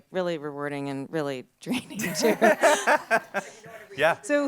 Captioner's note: and crowd laughs